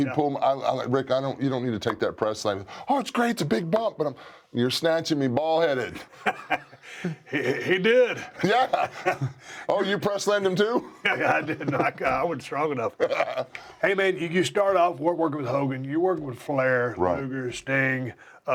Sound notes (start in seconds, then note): 12.9 laugh